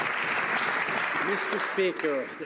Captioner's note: some Applause